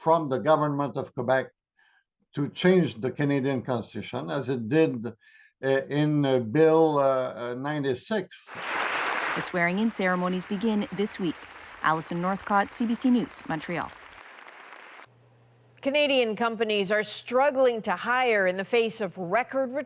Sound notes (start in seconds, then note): 11.7 applause